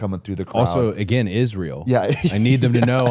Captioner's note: laughs